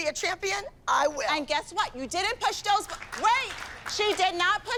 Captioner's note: applause